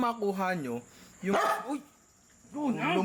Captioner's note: arf